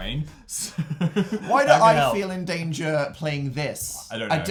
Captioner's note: chuckles